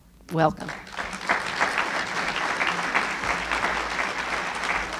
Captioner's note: applauding